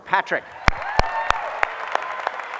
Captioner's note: applause